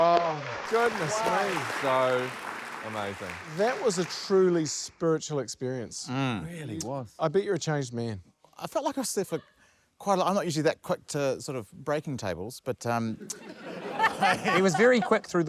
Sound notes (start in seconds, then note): 0.0 cheers, applause; 13.2 laughter